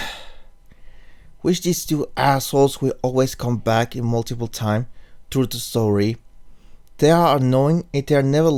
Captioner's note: sigh